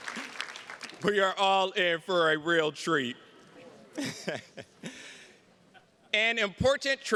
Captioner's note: chuckles